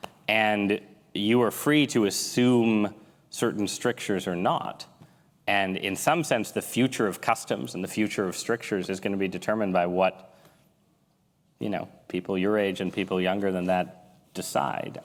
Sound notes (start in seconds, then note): none